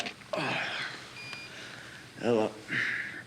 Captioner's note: phone beeps